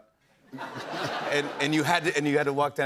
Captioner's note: laughter